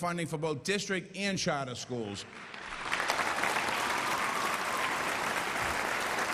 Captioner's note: applause